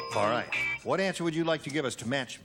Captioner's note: ding